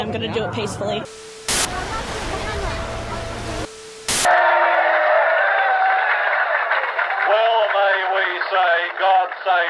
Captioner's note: crowd cheering